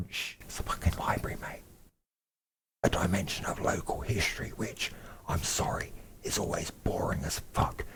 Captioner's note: whisper